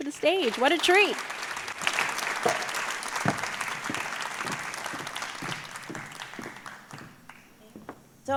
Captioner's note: applause